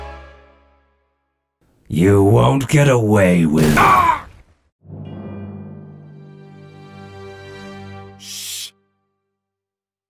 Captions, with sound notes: ...you won't get away wi- *BANG* AHH! Shh...